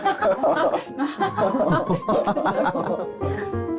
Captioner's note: gulp